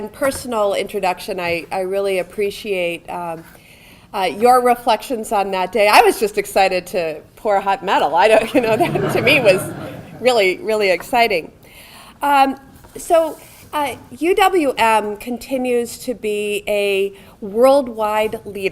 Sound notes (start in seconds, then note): 8.4 audience laughing